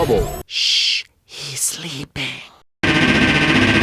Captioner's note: whisper